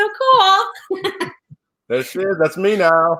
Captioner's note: laughs